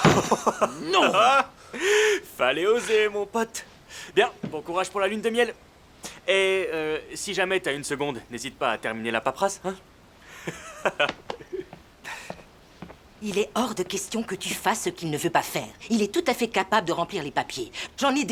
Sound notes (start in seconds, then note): 10.3 laughing